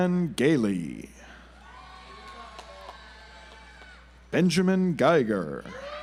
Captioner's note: audience applauds